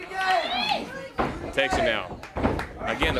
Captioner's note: crowd cheering